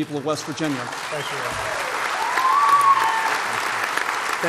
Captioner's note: applause